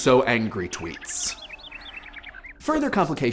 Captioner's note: twittering